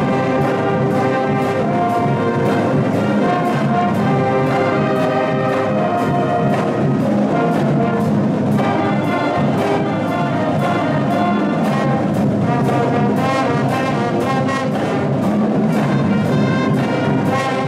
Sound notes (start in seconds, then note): none